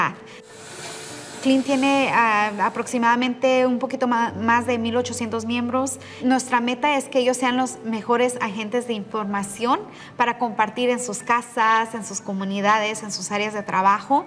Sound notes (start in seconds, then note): 5.4 continues speaking in Spanish